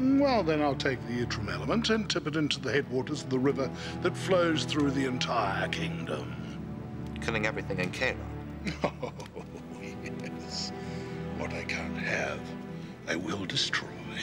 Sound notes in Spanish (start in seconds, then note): 8.6 riéndose